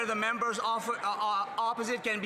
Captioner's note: some Applause